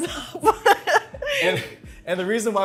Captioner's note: laughing